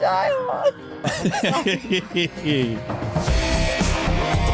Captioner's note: laughter